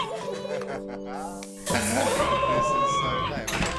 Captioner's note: woman screaming